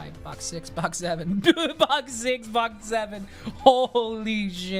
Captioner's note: laughs